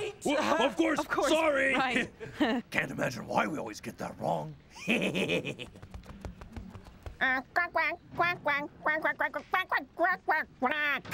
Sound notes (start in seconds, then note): 4.8 snickering